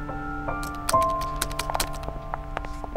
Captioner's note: Keyboard clicking